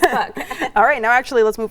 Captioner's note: laughing